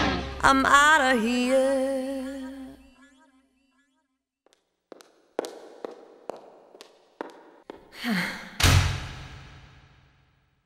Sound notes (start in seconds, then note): 6.0 footsteps clattering; 7.9 sighs; 8.6 door slams